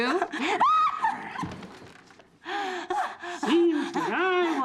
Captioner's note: shrieks and gasps